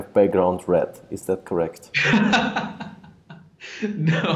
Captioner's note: laughs